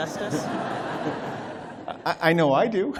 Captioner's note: laughter